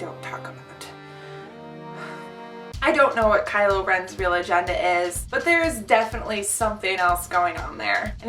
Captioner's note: sigh